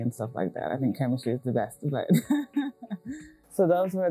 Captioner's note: laughs